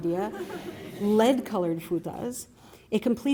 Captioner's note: laughter